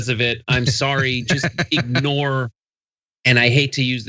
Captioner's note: laugh